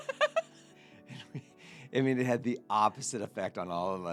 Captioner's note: laughing